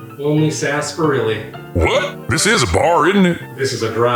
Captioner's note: voiceover